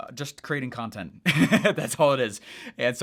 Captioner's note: chuckles